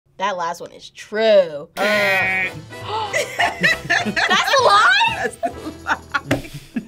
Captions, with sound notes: - That last one is true! - (imitates buzzer) - (gasps) - (laughs) - That's a lie?! - That's the lie.